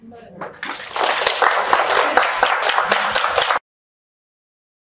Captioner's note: audience Clapping